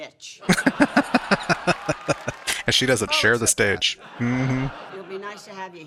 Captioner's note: laughing